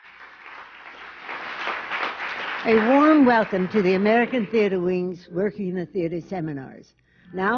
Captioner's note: applause